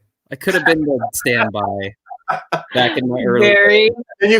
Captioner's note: laughter